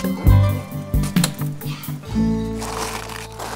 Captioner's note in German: flüstert; Rascheln